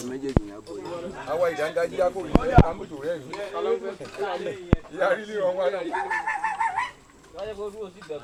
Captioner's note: dog barking